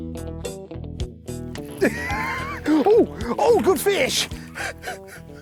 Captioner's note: laughing